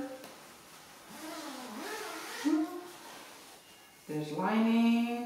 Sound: zipper unzipping

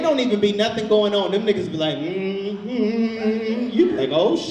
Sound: hums

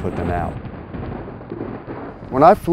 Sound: thunder

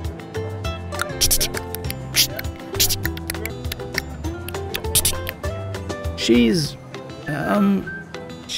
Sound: clicks, t sounds

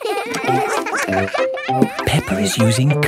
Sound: all giggling

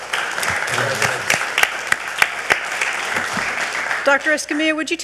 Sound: all clapping

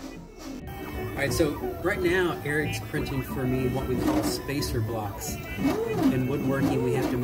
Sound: loud 3D printer noises in the background: whirs and beeps

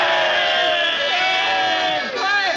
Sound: cheering

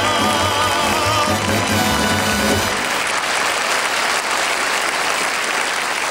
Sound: audience applauding

